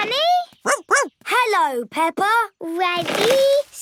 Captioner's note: snorts; barks